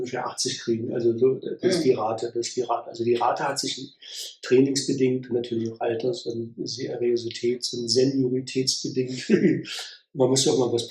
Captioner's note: laughs